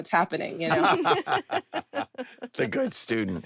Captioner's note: all laugh